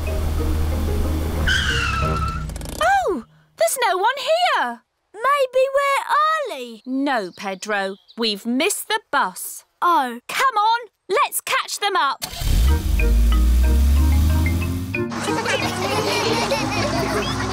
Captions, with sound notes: (TIRES SCREECH) Oh, there's no-one here. Maybe we're early. No, Pedro, we've missed the bus. -Oh. -Come on. Let's catch them up! (LAUGHTER)